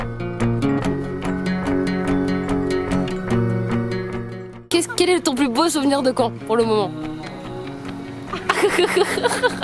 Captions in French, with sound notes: "quel est ton plus beau souvenir de camp, pour le moment ?" (rire)